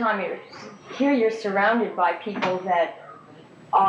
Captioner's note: none